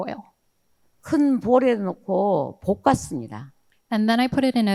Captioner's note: speaking in foreign language